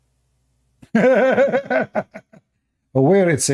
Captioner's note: Ketawa